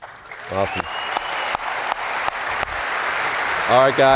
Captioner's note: applause